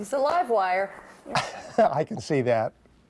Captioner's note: chuckles